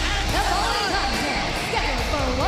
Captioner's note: bell ringing